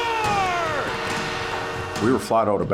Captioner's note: horn sounding